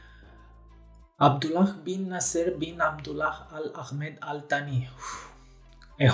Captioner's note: trage aer in piept; expira